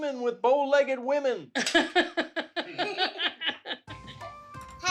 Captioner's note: laughter